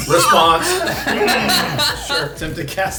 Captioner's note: laughing